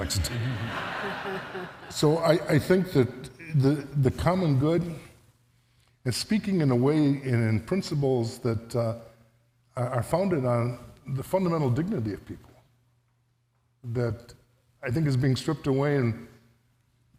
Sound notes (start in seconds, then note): 1.7 audience laughs